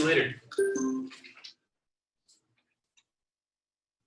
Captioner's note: electronic chiming